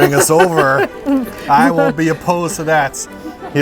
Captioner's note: laughs